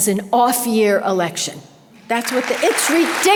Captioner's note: audience applause